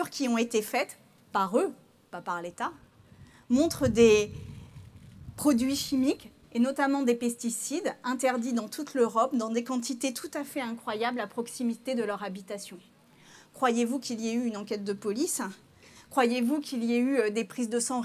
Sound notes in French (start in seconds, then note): none